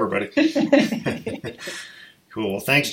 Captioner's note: laughing